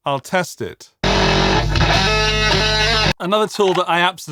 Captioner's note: static